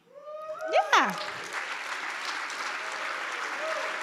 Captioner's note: audience applauds